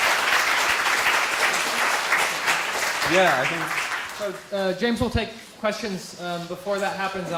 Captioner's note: applause